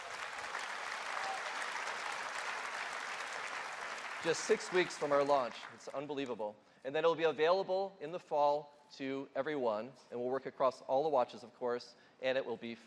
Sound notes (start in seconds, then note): 6.2 applause